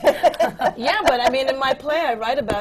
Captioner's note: laughs